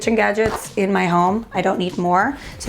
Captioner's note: rustling